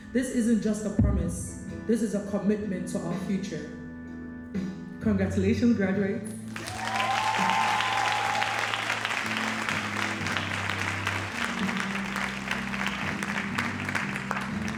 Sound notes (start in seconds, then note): 6.4 audience cheering and applauding